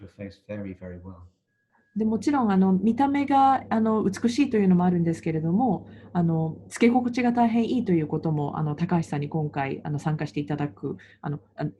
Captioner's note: interpreter speaking